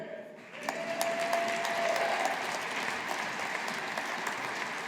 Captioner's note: audience applauding